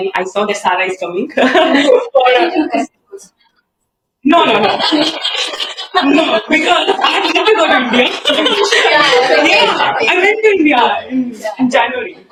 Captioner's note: laughter